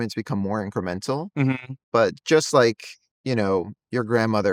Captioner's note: hums